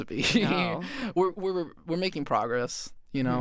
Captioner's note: chuckles